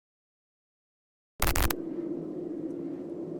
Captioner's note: glitch sound; spectral hollow sound